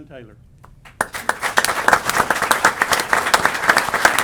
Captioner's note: applause